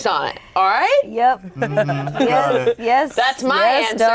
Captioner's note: group laughing